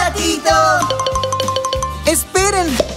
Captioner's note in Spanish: Sonido de campana